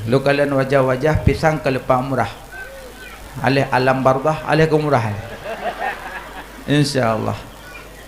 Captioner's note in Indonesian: tertawa